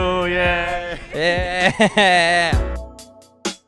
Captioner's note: laughing; funky music